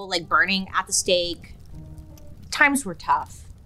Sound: fire crackles

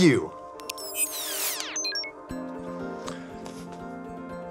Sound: electronic whirring

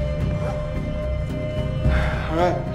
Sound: gasping

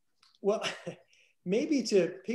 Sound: chuckles

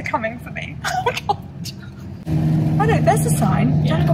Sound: laughs

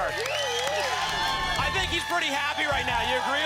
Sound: applause and cheering

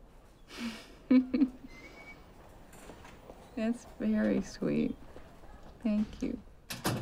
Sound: giggles

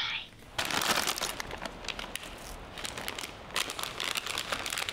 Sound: bags crinkling

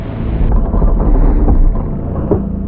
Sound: porthole rattling; foreboding music

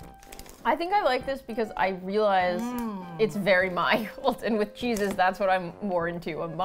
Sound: laughs

